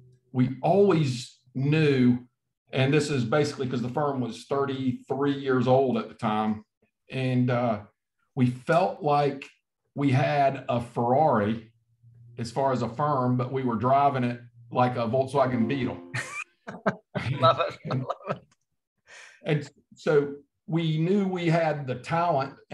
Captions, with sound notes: We always knew, and this is basically 'cause the firm was 33 years old at the time and we felt like we had a Ferrari as far as a firm, but we were driving it like a Volkswagen Beetle. - (laughs) Love it. - And so we knew we had the talent